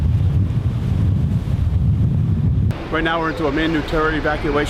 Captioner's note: sound of wind & waves